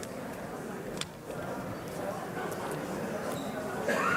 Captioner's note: overlapping chatter